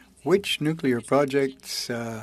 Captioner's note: speaking in French